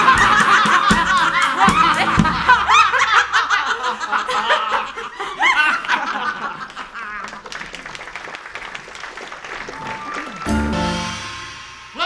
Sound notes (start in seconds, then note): 0.0 whole family cackles wildly; 7.4 applause